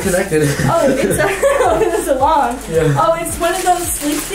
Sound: laughs

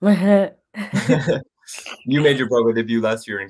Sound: they laugh

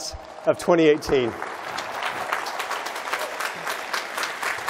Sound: applause

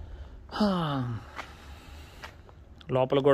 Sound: sighs

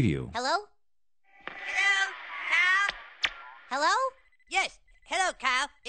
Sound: video voices

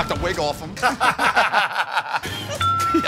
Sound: laughter

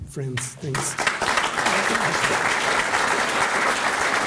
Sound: applause

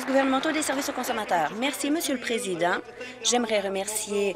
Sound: applause

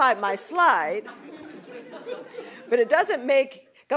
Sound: laughter

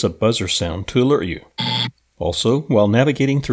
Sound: buzzer sound

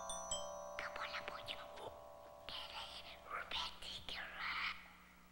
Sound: children whispering

